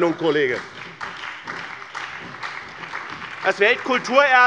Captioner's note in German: Beifall bei dem BÜNDNIS 90/DIE GRÜNEN, der CDU und der SPD